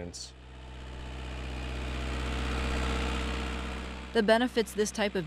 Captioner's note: platform rumbling